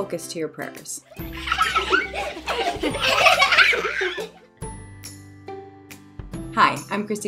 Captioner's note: gentle cheery music; children happily laughing